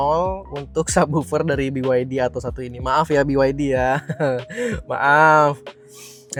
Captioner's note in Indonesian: tertawa